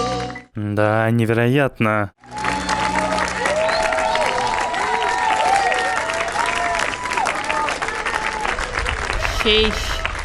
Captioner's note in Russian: аплодисменты